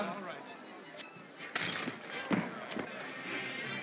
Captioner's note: shackle clatters